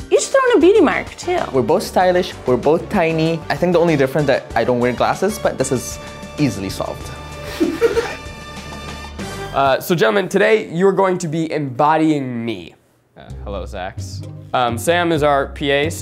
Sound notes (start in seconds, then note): 7.4 laughs